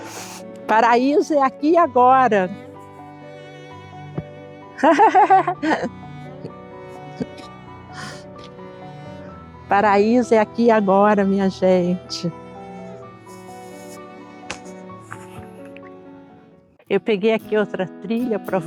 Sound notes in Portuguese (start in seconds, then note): 4.8 risada